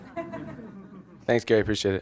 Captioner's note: audience laughs